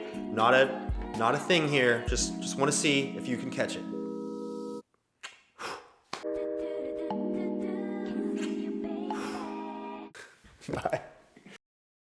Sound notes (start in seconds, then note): 5.2 kisses hand; 5.6 blows air; 10.6 laughing